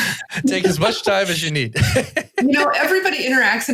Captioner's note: laughs